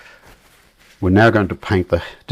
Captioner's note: silence